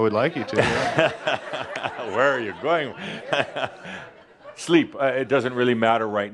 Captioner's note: laughter; Adamus chuckles